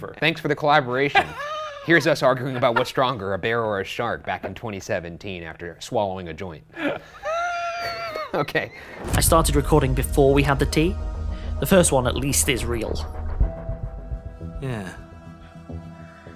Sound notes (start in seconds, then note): 6.7 laughs; 9.7 ominous music